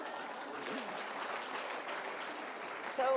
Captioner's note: applause